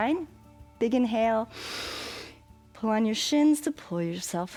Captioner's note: inhales